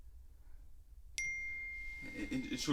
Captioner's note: notification